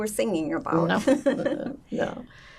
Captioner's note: laughing